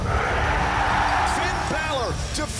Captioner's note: crowd cheering